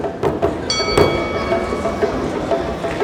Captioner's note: bell ringing